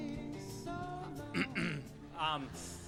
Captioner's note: clears throat